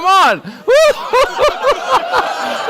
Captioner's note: laughs